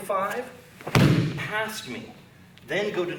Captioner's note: loud thumping